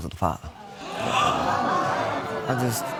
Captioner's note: audience exclaiming